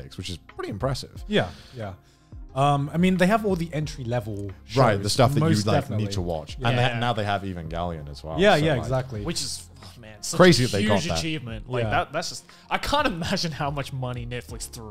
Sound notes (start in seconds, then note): none